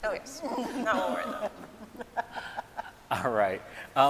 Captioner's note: scientists laughing